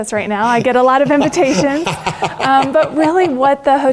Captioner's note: laugh